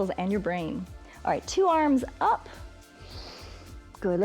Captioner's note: inhales